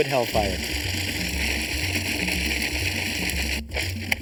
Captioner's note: blender whirring